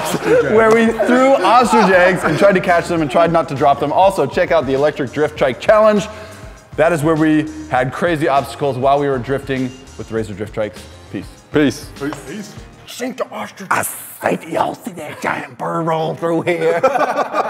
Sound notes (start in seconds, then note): 14.0 in crazy voice